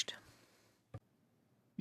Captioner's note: speaking French